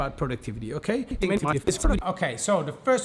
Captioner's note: audio fast-forwarding